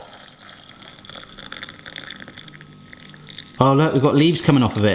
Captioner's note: mug filling